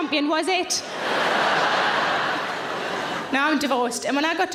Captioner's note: audience laughing